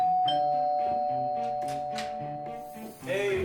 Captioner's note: doorbell rings